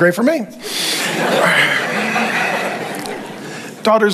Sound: congregation laughing

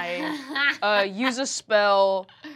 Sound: Fig laughing

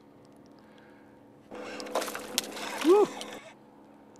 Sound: splash

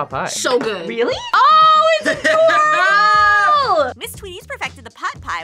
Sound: laughs

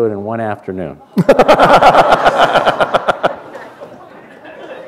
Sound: laughter

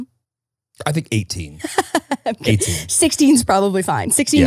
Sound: laughing

